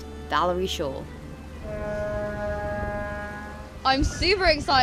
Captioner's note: boat horn